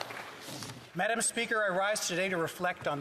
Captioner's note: some Applause